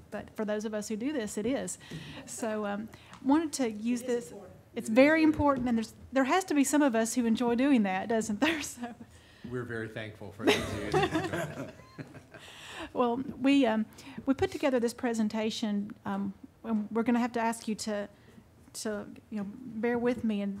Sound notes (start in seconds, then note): 10.4 all laughing